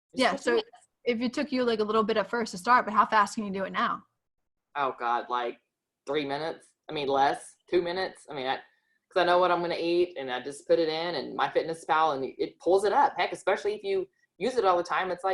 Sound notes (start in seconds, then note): none